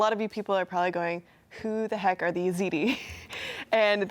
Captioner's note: laughs